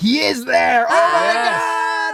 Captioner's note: yelling